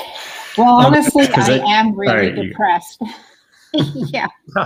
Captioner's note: laughs